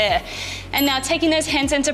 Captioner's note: bell chimes